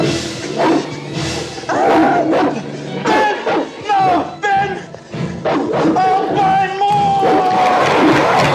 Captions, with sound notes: Ben,no!Ben! (Barking) I'll buy more!